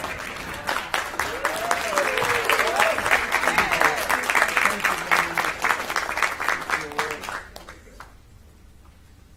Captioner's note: applause